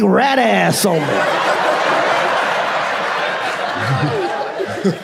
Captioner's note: audience laughs